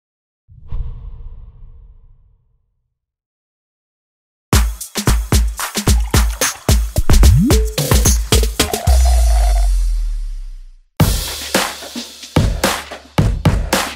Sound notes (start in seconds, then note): 4.6 upbeat music; 8.6 sucking through straw; 11.2 upbeat music